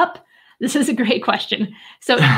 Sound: chuckling

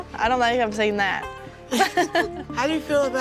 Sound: laughs

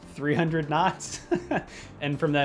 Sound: laughs

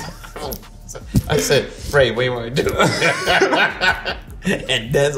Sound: RJ laughs; laughs

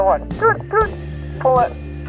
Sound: beeping sounds

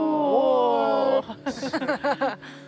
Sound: group oohs; group laughs

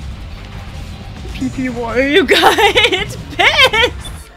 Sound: laughter

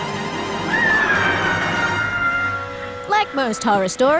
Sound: screams

